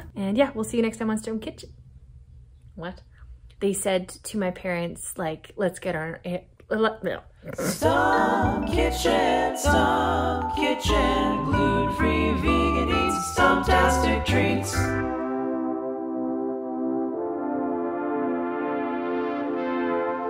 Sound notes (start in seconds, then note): 6.1 stammers; 7.4 snorts